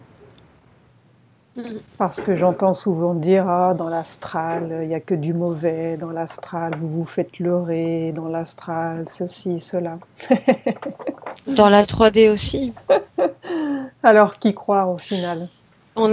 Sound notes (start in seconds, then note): 10.2 laughs